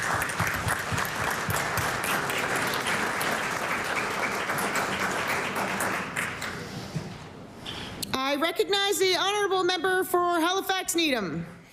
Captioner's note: applause